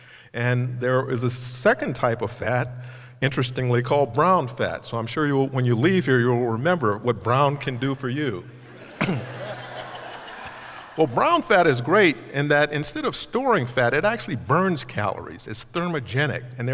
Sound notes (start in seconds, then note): 8.6 laughter